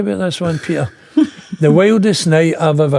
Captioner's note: laughing